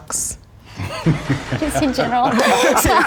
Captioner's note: both laugh